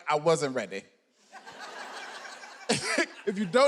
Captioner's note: audience laughing